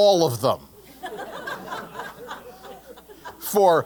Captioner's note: laugh